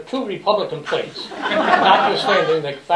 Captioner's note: laughter